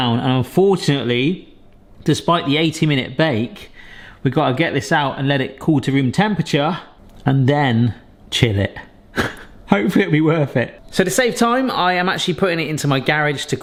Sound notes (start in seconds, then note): 9.1 chuckles